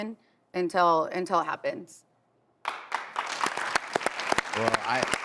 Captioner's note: audience applauds